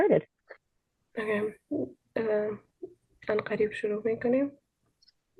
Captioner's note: speaking in Dari